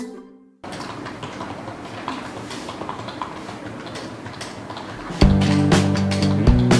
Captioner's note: typing sound